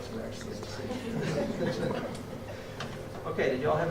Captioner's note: laughter